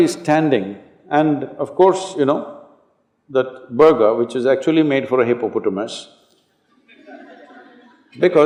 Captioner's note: laughter